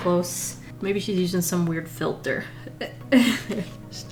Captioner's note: laughs